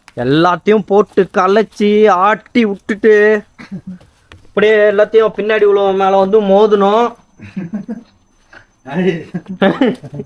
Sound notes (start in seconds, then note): 9.2 laughter